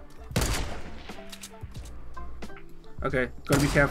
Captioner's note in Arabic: نيران المدافع